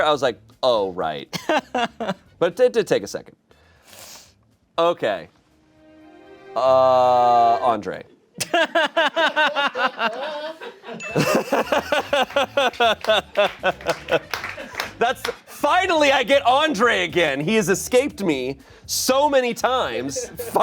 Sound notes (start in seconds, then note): 8.4 everyone laughs; 10.9 bell chimes; 12.3 laughs; 13.0 crew applauds